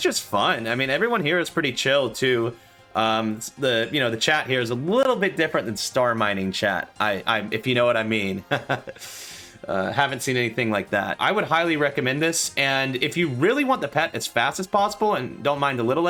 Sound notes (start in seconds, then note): 8.6 nervous laughter